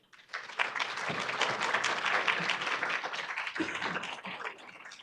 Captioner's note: audience applauding